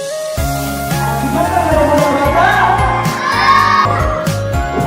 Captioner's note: children cheering loudly